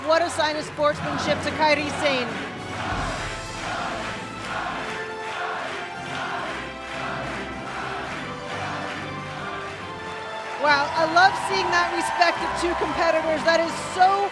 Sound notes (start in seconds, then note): 4.4 fans chanting